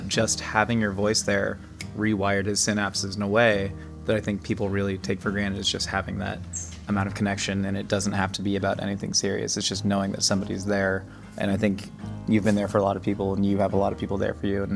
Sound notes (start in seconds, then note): 1.8 snapping; 7.1 sentimental music